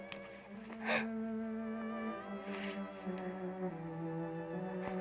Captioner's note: Sheila gasps